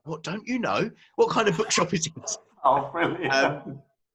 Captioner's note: laughing; murmurs